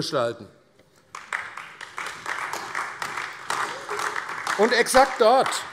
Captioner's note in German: Beifall AfD